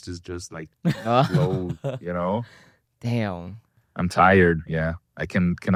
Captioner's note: laughs